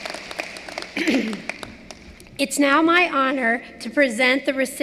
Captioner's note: cheering and applause